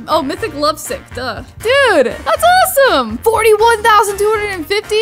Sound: none

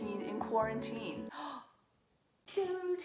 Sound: gasp

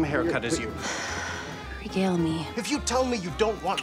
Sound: exhalation

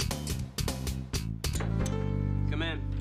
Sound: knocking on door

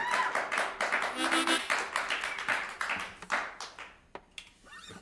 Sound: applause

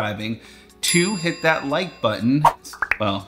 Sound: bell ringing; bubbles popping; air swooshing

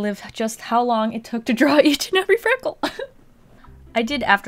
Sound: giggles

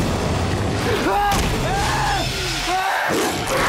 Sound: victim screaming; werewolf snarling

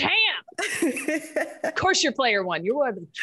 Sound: laugh

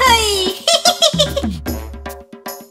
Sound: monkey laughs

